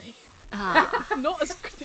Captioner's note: laughs